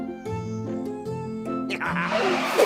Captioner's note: wolf laughs